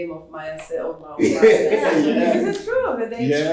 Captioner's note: laughs